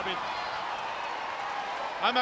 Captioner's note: crowd cheering